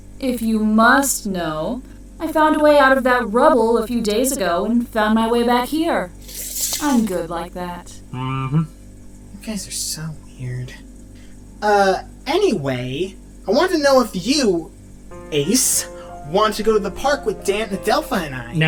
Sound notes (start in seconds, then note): 9.3 CAST, under breath